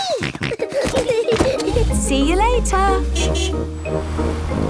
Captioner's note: kids giggling; snorting; honking